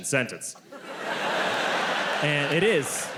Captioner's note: audience laughs